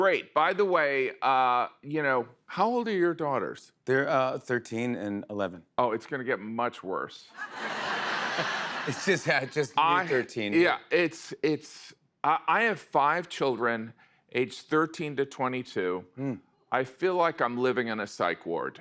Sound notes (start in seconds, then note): 7.3 laughter